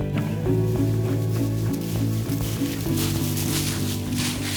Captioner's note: leaves crunch